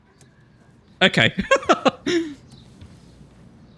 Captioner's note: laughs